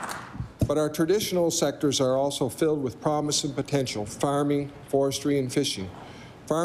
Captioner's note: applause